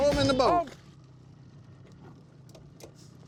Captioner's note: splash